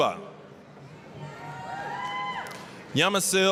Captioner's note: applause, cheering